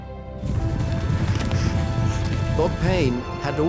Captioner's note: stampede rumbling